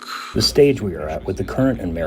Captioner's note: through translator